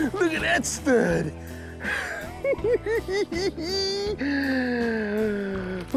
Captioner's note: laughing